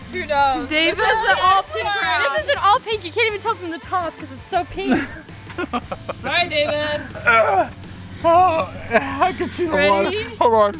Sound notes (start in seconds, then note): 5.5 dad laughs